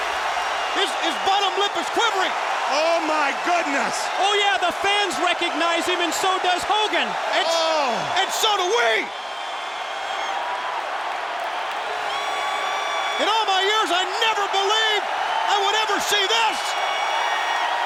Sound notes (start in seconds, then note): 10.0 audience cheering